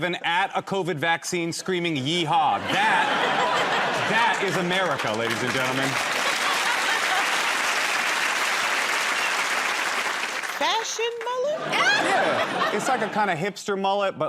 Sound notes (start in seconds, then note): 8.0 cheers and applause